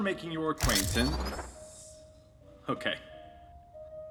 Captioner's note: laser rifle arming